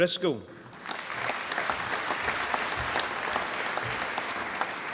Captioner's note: applause